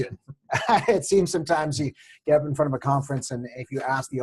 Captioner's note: laugh